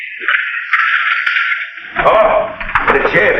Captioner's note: chair rattles